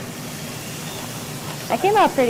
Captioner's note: sizzling